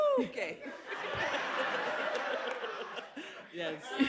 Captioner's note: laughter